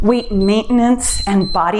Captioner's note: timer beeps